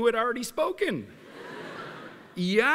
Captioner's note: laughter